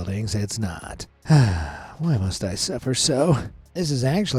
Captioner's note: sighs